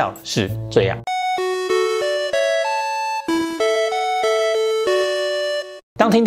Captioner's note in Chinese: 鈴聲